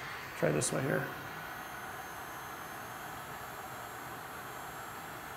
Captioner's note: heat gun whirring